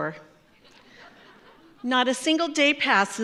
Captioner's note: audience laughs